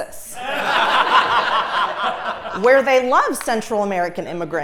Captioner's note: laugh